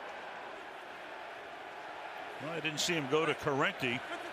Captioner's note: crowd chanting